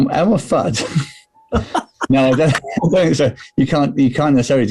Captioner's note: laughing